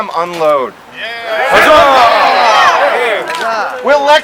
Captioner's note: crowd